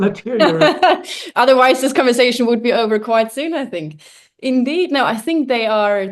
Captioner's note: laughs